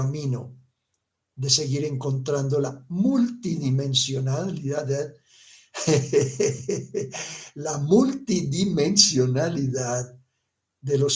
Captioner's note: chuckles